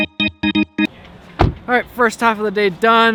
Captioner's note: door slam